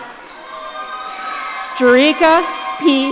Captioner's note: audience cheering